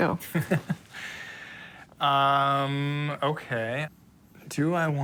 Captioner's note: laughs